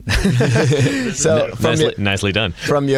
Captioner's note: laughing